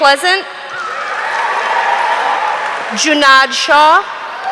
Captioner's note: audience cheering